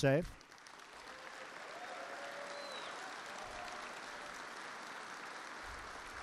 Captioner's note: applause